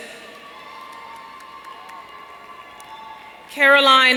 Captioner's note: audience cheering